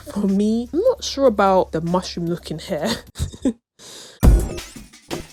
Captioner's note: laughs